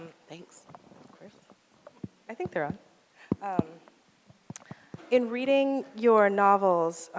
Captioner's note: none